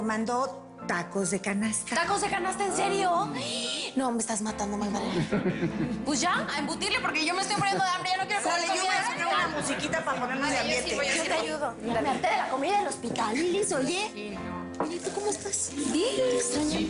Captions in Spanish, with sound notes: - SI, PERO... PERO MANDO TACOS DE CANASTA. - ¿TACOS DE CANASTA? ¿EN SERIO? !UH! NO, ME ESTAS MATANDO, MAGDALENA. [Risas] - PUES, YA A EMBUTIRLE, PORQUE YO ME ESTOY MURIENDO DE HAMBRE... [Hablan al unísono] - YA ME HARTE DE LA COMIDA DEL HOSPITAL, LYLIS, OYE. OYE, ¿Y TU COMO ESTAS?